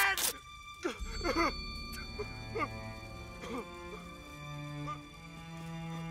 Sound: sobbing

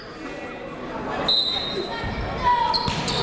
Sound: whistle; chatter

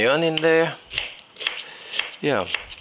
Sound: knife chopping

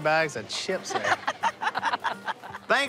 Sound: laughter

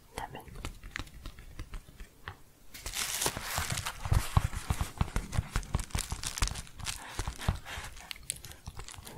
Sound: tapping and crinkling

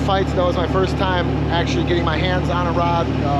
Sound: boat engine running

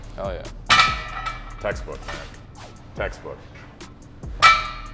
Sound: bar banging

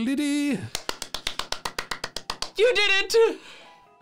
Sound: clapping

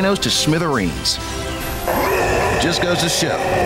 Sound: growl

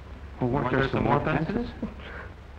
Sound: chuckling

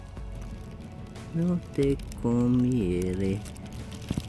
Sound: Spanish

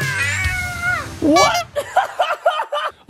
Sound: shouts; clown horn sound effect; laughter

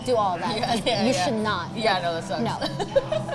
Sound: laughs

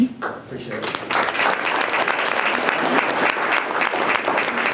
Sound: group applauding

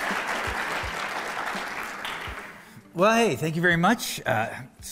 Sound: applause

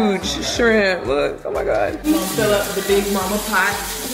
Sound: water running

